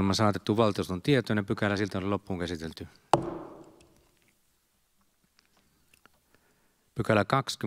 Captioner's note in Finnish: Nuijan kopautus